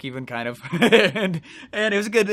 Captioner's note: laughs